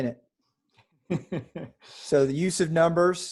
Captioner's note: laughs